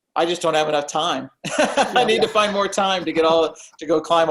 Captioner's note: laughs